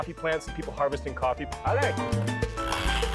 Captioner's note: speaks Spanish